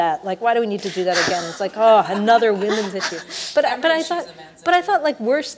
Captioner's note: laughs